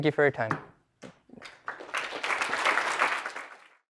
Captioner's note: applause